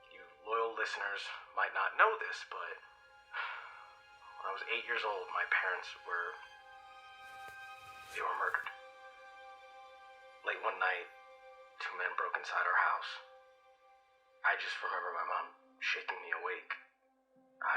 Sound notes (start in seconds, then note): 3.4 sighs